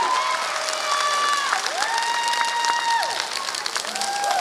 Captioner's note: applause